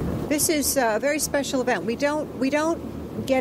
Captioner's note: none